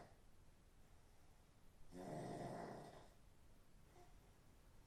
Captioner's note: Phil snoring